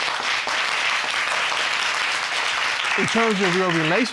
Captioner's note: audience applauding